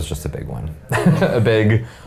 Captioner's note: laughing